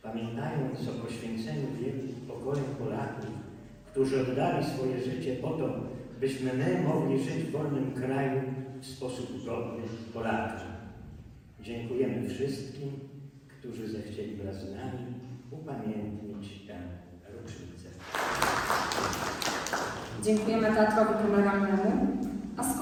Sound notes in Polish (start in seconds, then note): 18.0 głośne brawa